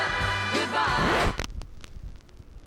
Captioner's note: rustling